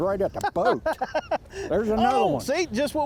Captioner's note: laughs